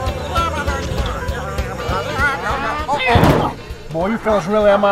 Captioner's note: aliens jabbering